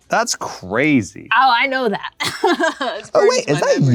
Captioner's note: laughs